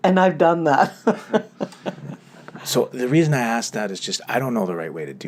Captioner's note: both laugh